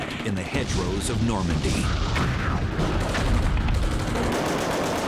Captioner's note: sounds of battle